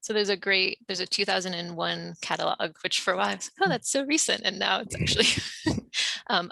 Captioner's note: laughs